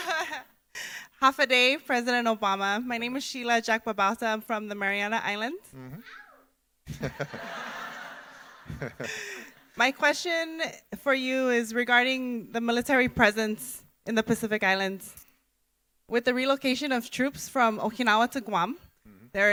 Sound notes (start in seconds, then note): 0.2 laughs; 6.0 woman squeals; 6.9 audience laughing; 7.1 Barack Obama laughs